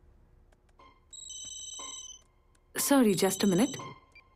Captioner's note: intercom ringing